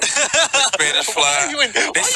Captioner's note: laughter